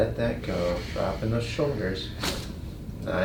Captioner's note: patient inhales; patient exhales; spine cracks